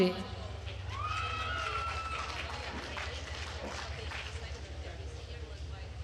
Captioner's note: attendees cheering and applauding